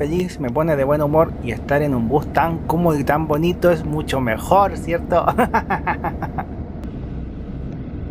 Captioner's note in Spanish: risas